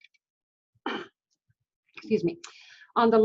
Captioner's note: coughing